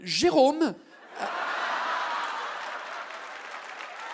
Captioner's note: audience exclaims and laughs; audience claps